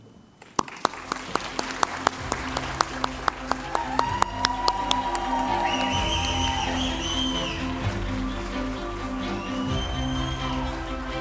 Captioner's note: applause & Cheers